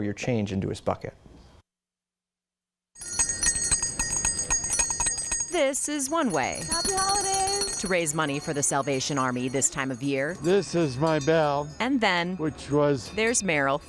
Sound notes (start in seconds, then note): 8.7 bells